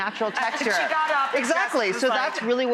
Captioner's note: applause